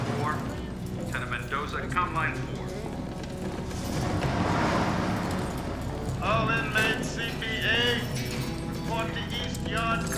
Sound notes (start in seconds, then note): 0.3 over P.A. system; 8.1 over P.A